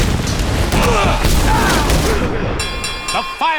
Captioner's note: groaning, bell dinging